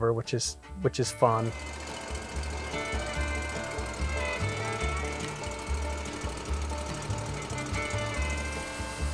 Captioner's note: mill Sounds